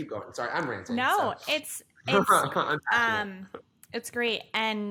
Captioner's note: laughs